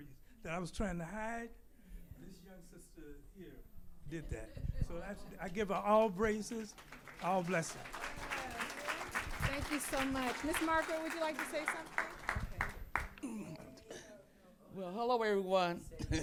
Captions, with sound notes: that I was trying to hide, this young sister here did that. So I give her all braces, all blessings. (audience applauding) - Thank you so much. Ms. Margaret, would you like to say something? - Well, hello, everyone.